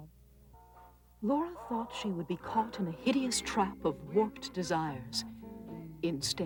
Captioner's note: reading over music